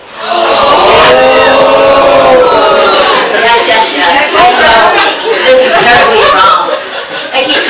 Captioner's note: audience gasps